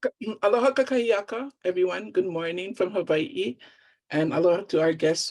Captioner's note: speaking Hawaiian